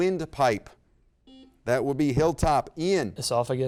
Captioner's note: buzzer beep